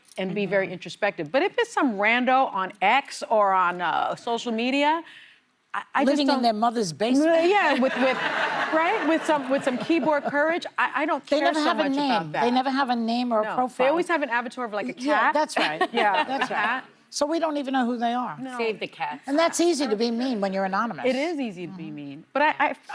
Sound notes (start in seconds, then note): 12.6 laughter